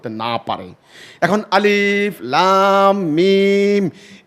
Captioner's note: Verse from the Quran in Arabic